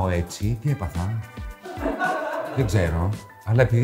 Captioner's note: group laughs